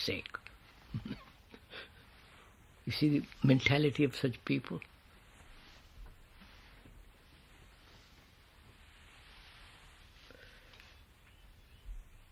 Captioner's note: laughs